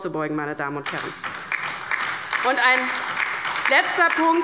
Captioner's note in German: Beifall bei der LINKEN und der SPD